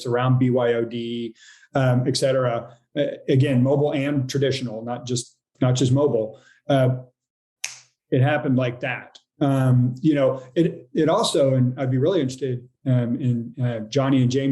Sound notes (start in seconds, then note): 7.6 snaps fingers